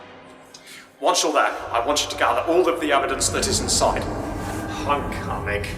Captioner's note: tardis engines groaning